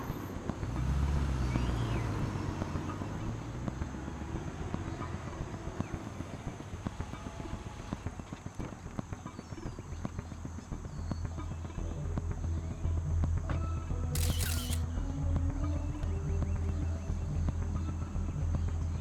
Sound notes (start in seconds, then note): 1.7 car humming; 9.5 suspenseful music; 14.1 camera shutter clicking